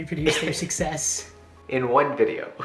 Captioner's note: laughs